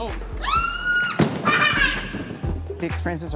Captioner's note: child screaming, laughing